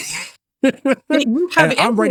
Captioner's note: laughs